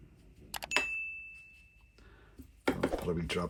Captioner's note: ding